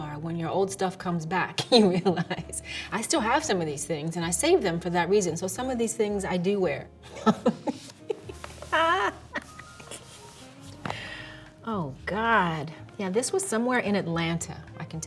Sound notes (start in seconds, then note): 1.7 chuckles; 7.1 Halle laughs